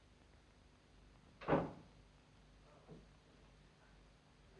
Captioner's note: door closes; men chattering quietly